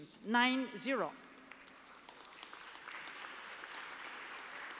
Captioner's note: applause